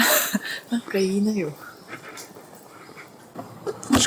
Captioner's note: laughs